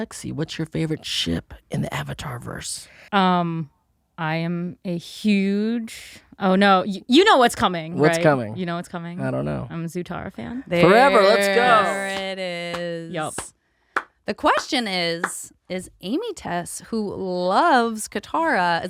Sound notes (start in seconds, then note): 12.7 clapping